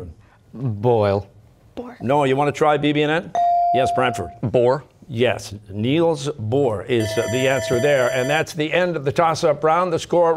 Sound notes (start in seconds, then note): 0.7 whispering; 7.0 bell ringing